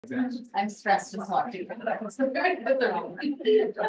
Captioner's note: indistinct chatter